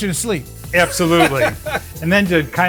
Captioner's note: laughs